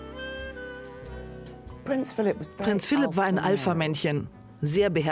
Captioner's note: voiceover